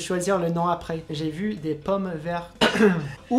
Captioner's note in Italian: coff coff